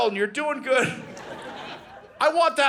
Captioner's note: audience laughing